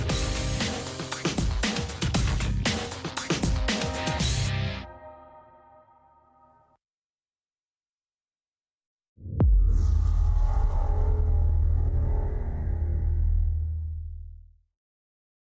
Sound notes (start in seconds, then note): 13.9 transition sound